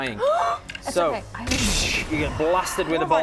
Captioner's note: gasp; zap